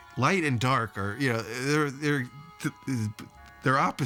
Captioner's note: stuttering